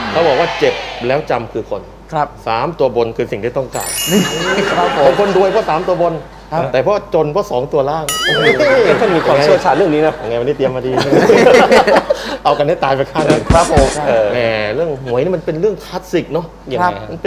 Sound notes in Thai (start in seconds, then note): 4.0 เสียงหังเราะ; 10.9 เสียงหัวเราะ